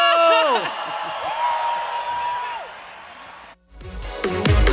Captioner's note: audience applauding and cheering; upbeat techno music